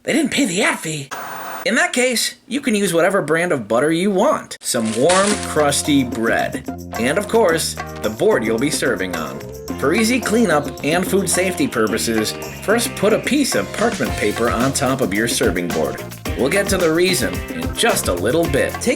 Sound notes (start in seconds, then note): 1.0 static